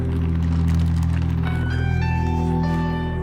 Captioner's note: rustling